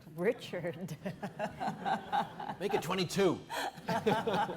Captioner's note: all laughing